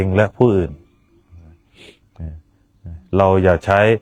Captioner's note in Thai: เสียงสูดหายใจ